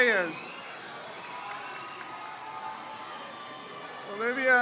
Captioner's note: crowd cheers